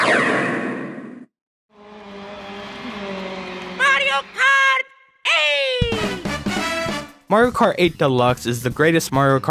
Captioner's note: vroooooom